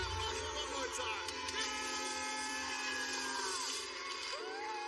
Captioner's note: buzzer blares